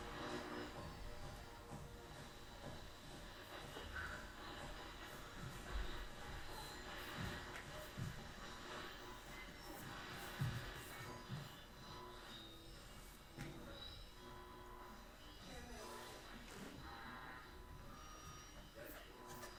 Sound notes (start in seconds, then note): 0.7 footsteps thumping; 5.7 static hissing continues; 10.4 static hissing and squealing